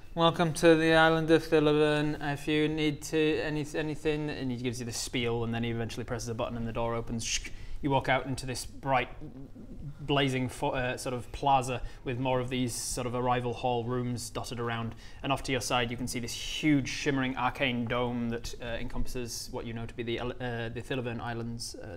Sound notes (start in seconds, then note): 7.3 tssk